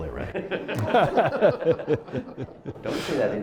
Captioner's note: laughter